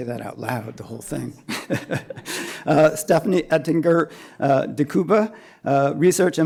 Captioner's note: laughter